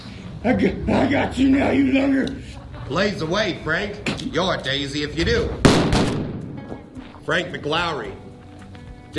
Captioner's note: gunfire